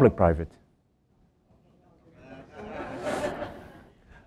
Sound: laughter

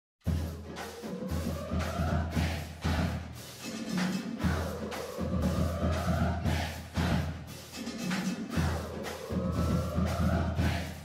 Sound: Pig Suey chant repeats; band playing

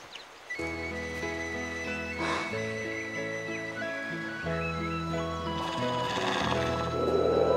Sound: Drogo snarling; upbeat music

